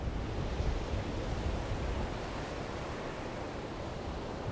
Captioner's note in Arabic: صوت أمواج المحيط والرياح